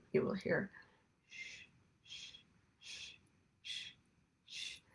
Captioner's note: shushes